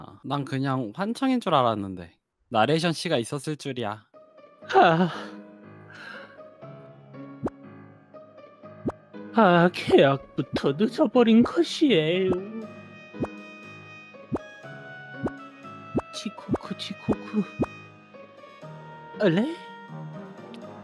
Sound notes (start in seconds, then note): 5.9 exhales